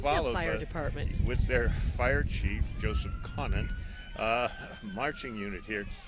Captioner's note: sirens chirping